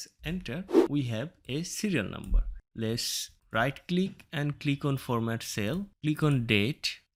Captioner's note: woosh Sound